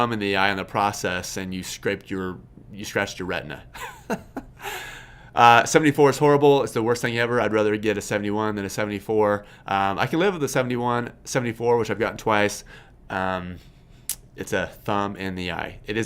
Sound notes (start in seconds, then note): 3.9 laughs